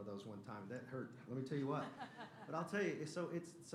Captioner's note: laughter